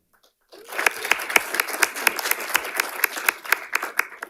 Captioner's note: audience applauding